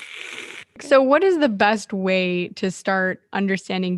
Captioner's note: makes static noise